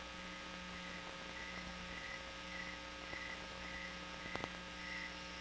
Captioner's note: crickets chirping; chirping continues